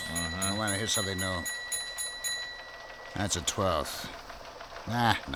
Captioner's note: bell ringing